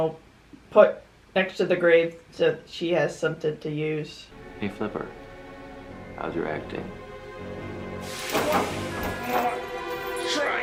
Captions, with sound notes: put next to the grave so she has something to use. Hey Flipper. How's your acting? [Grunting]